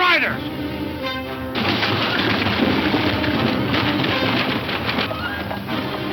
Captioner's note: horse hooves clattering